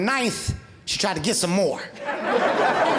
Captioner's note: audience laughing